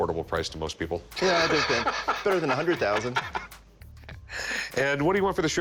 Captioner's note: laughing